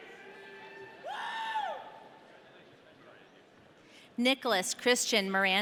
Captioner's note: audience cheering